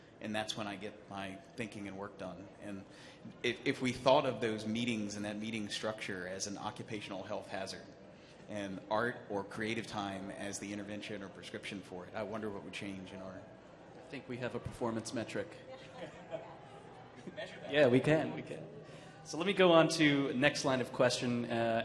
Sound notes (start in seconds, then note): 15.7 panelists laughing; 15.8 audience laughing